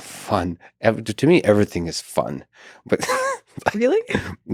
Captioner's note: laughs